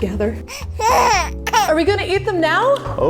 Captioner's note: baby crying